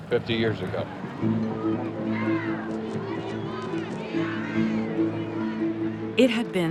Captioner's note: crowd chanting